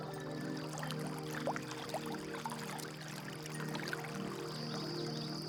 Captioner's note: flowing water